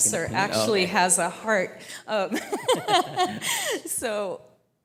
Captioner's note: laughing